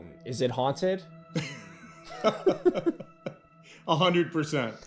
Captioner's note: laughing